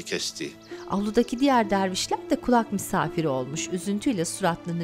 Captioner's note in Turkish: Kuş cıvıltısı sesi